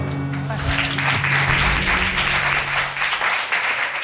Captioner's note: audience applauding